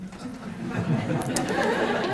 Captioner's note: laughter